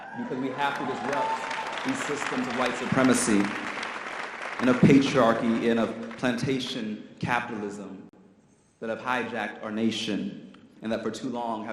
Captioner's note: audience cheers